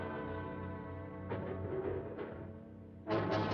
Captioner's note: clattering